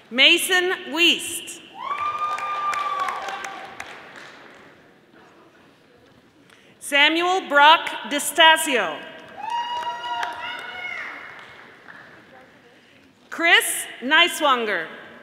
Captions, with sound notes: Mason Wiest, (audience applauding) Samuel Brock DiStasio, (audience applauding) Chris Niswonger,